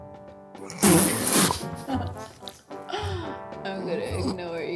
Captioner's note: laughs